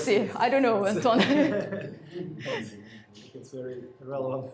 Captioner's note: laughs